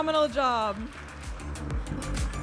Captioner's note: audience applauding and cheering